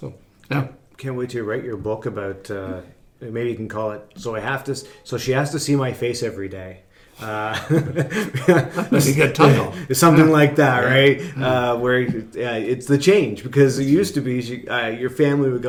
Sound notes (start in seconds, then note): 7.2 laughing